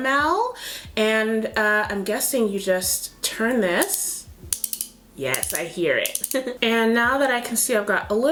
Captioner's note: clicks